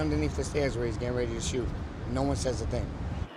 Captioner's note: sirens